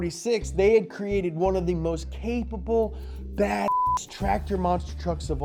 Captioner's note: beep